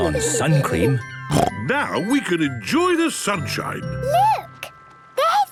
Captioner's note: snorting